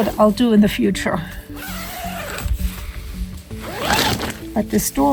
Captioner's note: sound of zipper